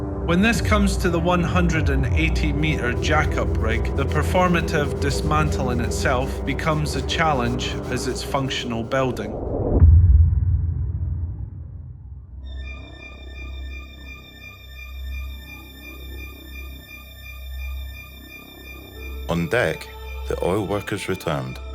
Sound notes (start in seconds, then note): 9.8 deep thud resonates